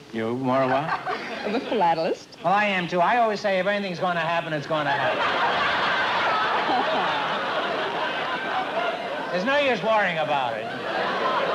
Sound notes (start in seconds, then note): 4.9 laughter